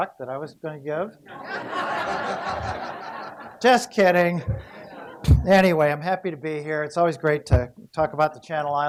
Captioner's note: laughter